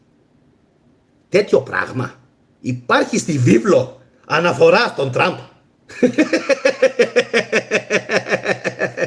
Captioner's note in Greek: γέλια